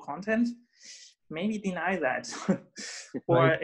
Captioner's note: scoffs